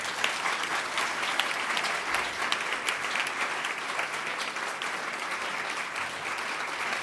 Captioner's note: applause